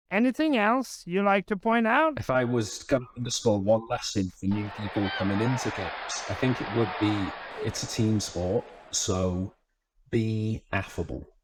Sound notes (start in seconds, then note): 4.5 crowd cheering